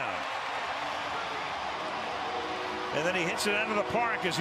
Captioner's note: cheering